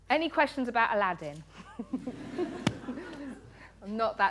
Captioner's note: laughter